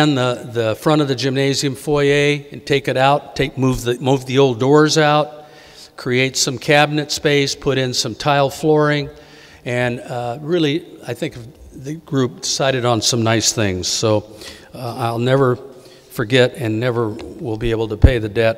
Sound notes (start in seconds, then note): none